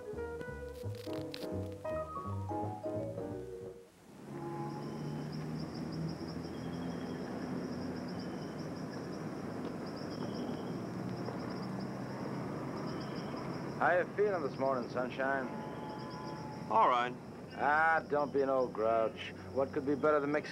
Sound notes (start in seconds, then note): 3.9 birds chirping